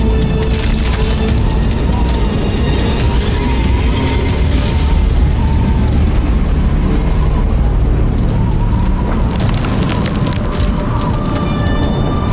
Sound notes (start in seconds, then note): 6.6 music fades; 6.6 wind gushing; 9.4 mystical music playing; 9.4 wind gushing